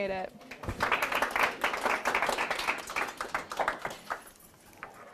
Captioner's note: applause